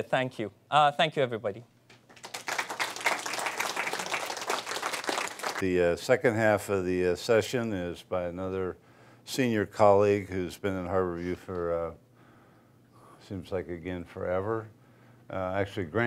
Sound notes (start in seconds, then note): 2.0 applause